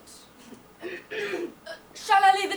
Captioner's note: Merriman clears throat